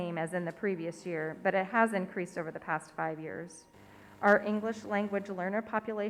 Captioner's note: none